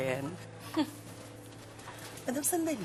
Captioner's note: scoffs